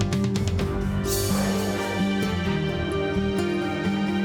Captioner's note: sighs